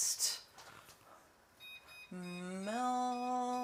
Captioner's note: microwave tone beeping